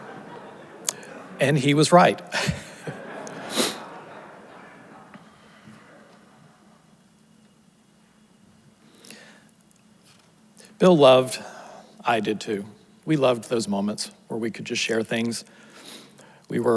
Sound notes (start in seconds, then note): 2.3 laughs; 3.2 audience laughs; 3.4 sniffles